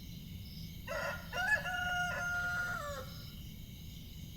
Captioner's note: A rooster crows